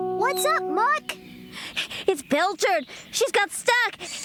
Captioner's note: panting